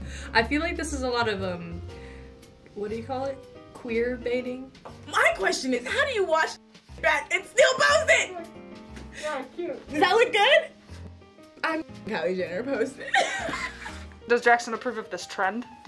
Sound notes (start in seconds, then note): 13.0 laughs